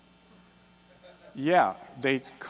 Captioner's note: laughter